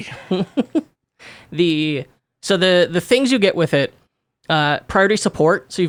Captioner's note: laughs